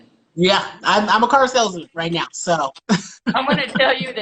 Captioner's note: laughs